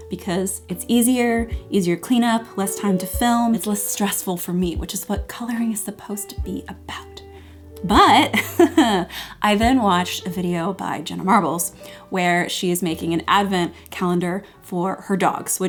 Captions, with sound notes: because it's easier, easier cleanup, less time to film, it's less stressful for me, which is what coloring is supposed to be about. But (laughs)I then watched a video by Jenna Marbles where she is making an Advent calendar for her dogs